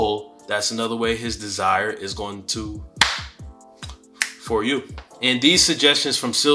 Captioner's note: claps